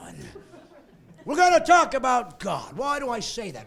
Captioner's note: laughing